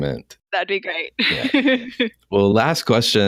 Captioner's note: laughs